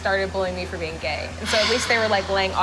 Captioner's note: sighs